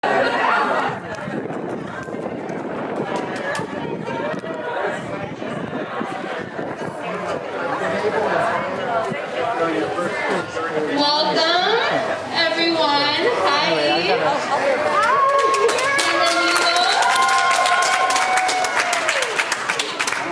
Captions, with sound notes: (people chattering) (wind blowing) - Welcome everyone! Hi! (people applauding) (speaking in foreign language)